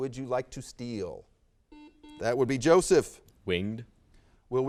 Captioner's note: buzzer sounds